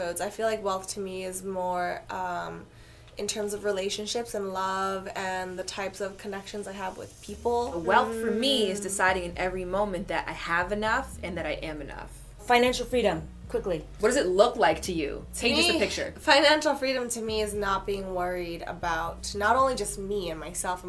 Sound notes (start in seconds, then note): none